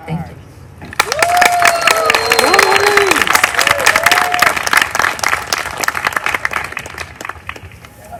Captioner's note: applause